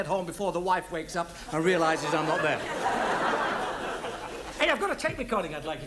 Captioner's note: audience laughs